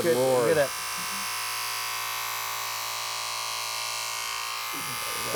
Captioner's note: tool buzzing